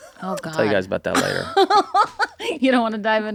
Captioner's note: Rob and Kaitlin laugh